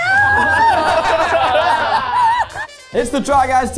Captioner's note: everyone laughing